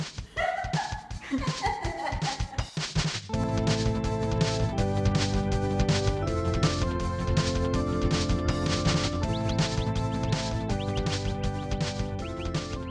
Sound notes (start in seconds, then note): 0.2 laughs; 4.2 keyboard music; 9.1 bird sounds